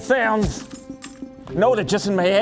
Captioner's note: money sounds